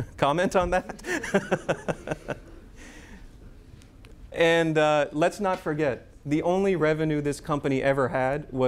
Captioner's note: laughter